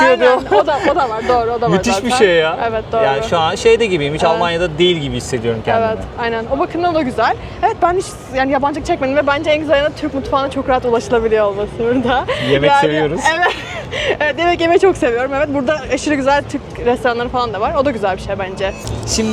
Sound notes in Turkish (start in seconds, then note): 13.1 kahkaha